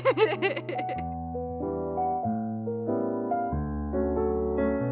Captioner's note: giggles